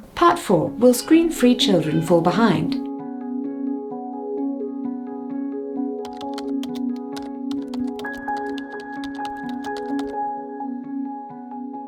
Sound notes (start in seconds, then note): 3.2 gentle music; 7.6 keys clacking